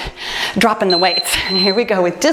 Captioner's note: timer beeps